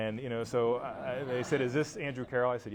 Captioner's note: laughter